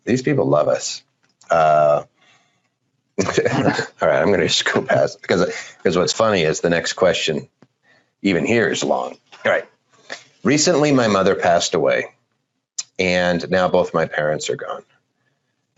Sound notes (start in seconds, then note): 3.2 laughing